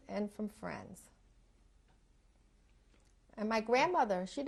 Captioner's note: pauses for 3 seconds